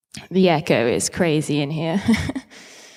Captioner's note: laughs